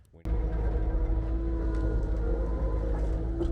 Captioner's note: engine roaring